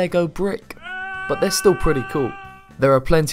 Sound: yelling

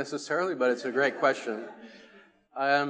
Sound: attendees laughing

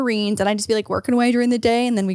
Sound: none

